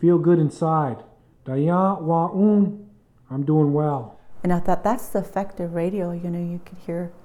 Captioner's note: speaking White Clay language